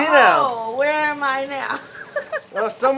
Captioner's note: laughs